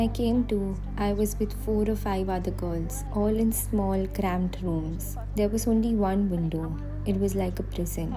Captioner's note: speaking alternate language